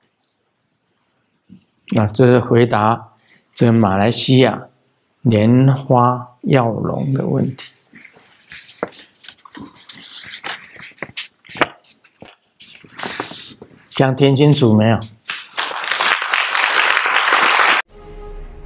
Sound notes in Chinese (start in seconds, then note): 15.4 眾鼓掌